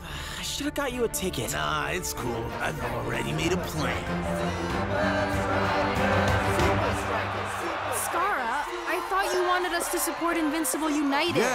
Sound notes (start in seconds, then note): 0.1 sighing; 2.9 crowd chanting